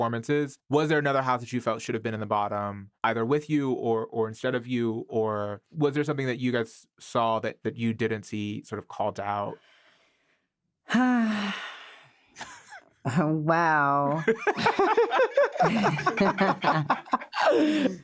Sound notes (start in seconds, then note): 10.9 sighs; 14.1 all laughing